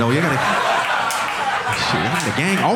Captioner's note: audience laughing